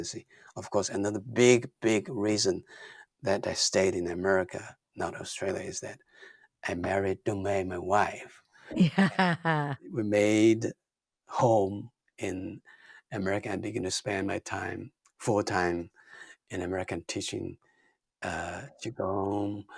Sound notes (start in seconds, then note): 8.7 laughs